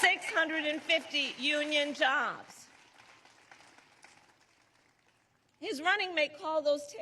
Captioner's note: applause